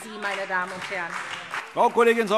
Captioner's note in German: Beifall SPD